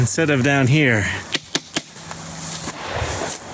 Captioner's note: arrow taps on target